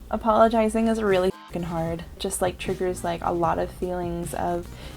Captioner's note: honk